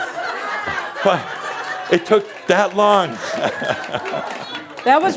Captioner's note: laughter; some applause